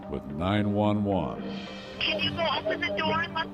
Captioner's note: on phone